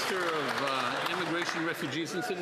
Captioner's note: some Applause